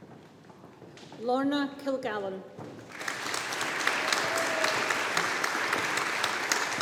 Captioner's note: audience applauding